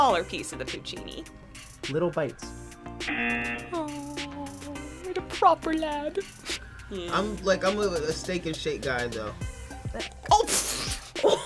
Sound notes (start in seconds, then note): 3.0 buzzer buzzes; 11.0 laughs